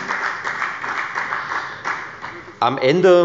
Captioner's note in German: Beifall bei der FDP